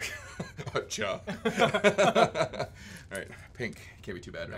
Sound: laughs

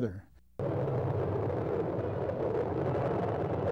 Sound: wind howling

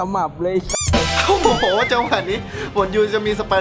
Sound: chuckles

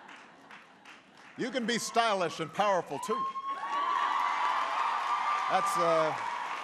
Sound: laughter; applause

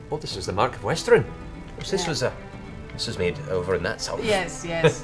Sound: scoffs

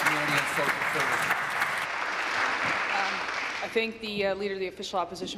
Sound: applause

